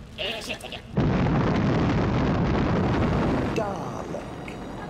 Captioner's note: earth-shattering kaboom